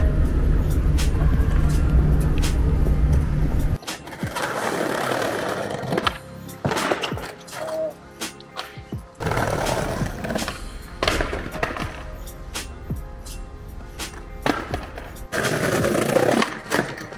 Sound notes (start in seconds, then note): 3.6 skateboarding rolling; 6.8 skateboard clatters